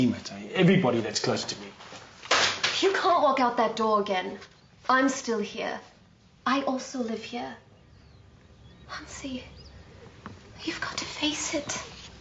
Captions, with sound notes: My teammates. Everybody that's close to me. (slamming) - You can't walk out that door again. I'm still here. I also live here. Hansie, you've got to face it.